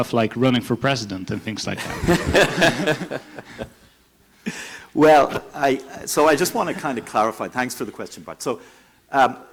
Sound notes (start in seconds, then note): 1.8 laughing